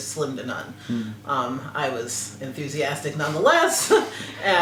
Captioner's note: laugh